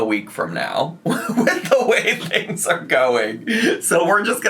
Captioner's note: laughing